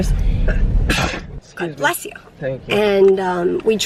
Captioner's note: sneezes